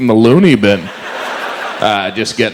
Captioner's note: audience laughs